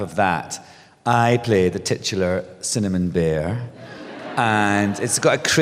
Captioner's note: laughter